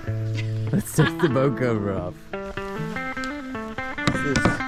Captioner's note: laughter